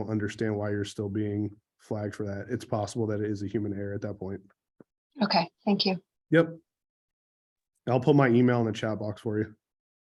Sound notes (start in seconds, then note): none